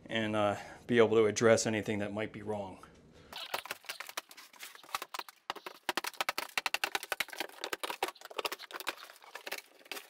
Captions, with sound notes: and be able to address anything that might be wrong. (tape fast-forwarding) (rapid drywall breaking)